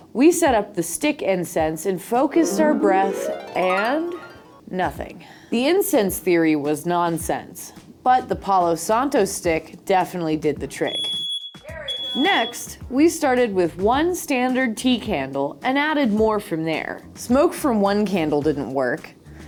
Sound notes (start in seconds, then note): 11.9 beep